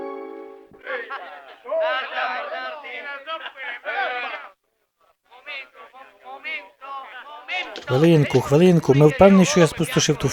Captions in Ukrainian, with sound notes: (ГОЛОСИ НА ВУЛИЦІ) Хвилинку. Ми впeвнeні, що я спорожнив ту флягу?